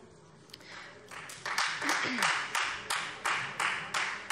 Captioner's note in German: Beifall Freie Demokraten